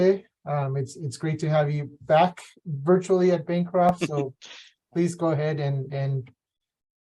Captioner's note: laughs